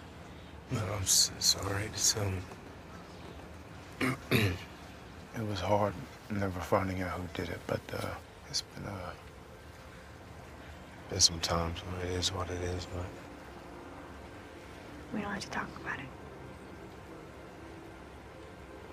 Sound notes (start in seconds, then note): 4.0 clears throat